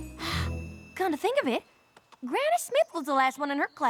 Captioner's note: gasps